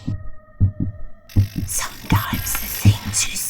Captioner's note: heartbeat beating